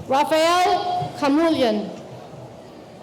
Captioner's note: none